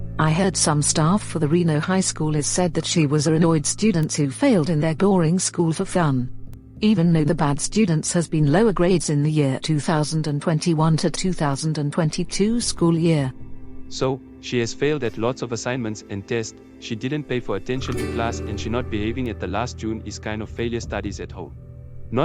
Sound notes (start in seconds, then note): none